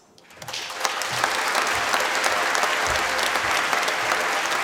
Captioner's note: applause